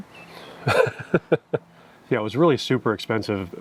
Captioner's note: chuckles